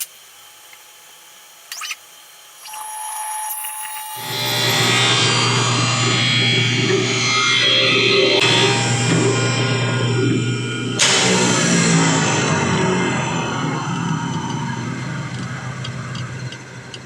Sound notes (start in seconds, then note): 3.1 drill cutting; 11.3 drill spins down